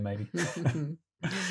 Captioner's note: laughs